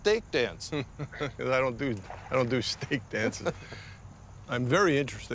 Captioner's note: chuckling